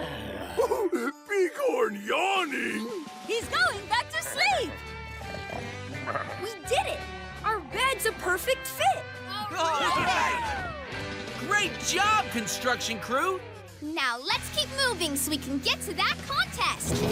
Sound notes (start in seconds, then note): 0.5 Zeg giggles; 5.2 snoring; 9.5 cheering